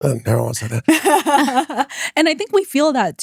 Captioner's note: laughing